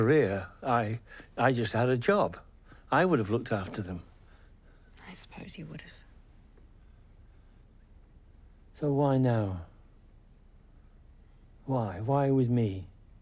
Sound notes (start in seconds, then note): none